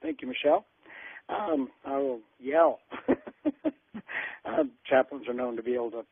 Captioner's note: chuckles